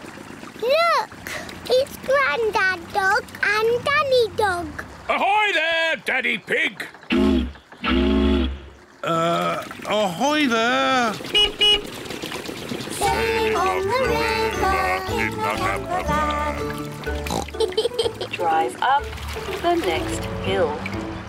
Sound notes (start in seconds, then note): 7.8 toots horn; 11.1 beeps horn; 17.2 oinks and giggles